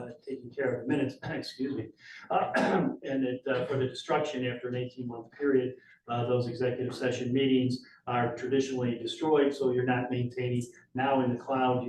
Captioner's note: clears throat